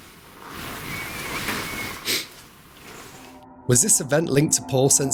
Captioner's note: wind whistling gently